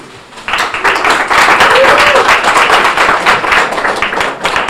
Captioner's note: audience applauding